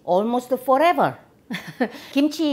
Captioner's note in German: Kicherkicher